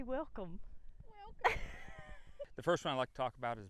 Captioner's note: laughter